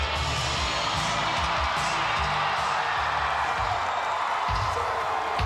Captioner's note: crowd cheering